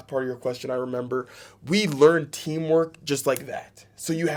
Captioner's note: snaps fingers